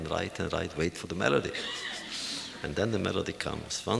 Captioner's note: laughter